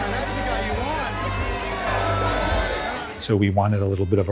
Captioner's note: crowd cheering